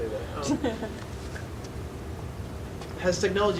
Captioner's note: laughing